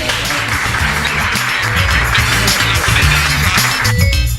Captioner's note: audience applauds